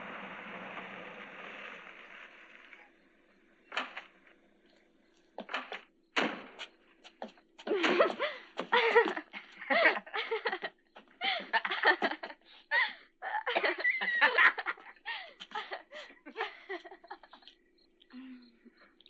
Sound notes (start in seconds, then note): 7.6 girl laughing; 9.6 boy laughing